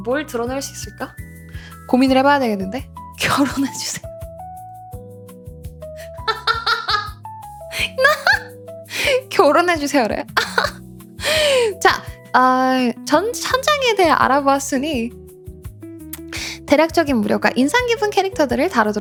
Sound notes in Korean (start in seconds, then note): 6.2 웃음; 11.2 헉 소리; 12.0 웃음